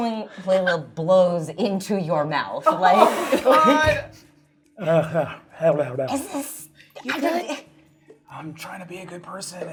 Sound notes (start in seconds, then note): 2.7 laughing